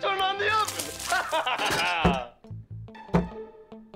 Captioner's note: laughs